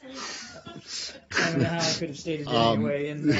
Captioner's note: laughter